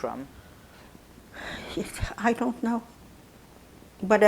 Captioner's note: sighing